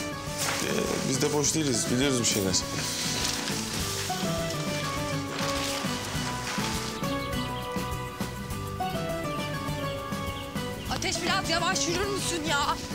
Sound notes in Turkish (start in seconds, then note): 7.2 Kuşlar ötüyor